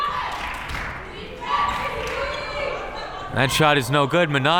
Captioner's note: crowd members chanting